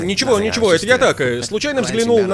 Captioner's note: laughing